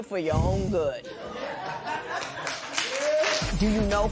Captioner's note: laughter and applause